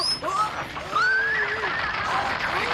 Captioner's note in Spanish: relincho